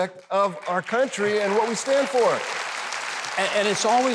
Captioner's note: audience applauding